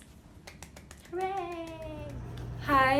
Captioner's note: clapping